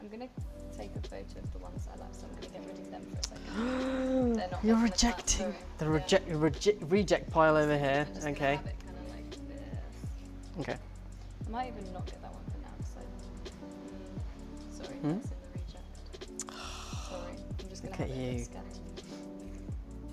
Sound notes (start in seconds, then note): 16.4 gasping